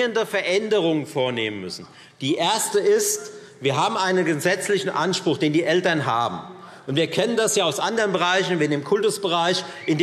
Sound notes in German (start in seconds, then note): none